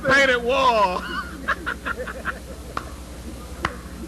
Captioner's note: laughter